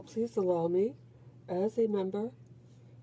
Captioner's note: speaking in French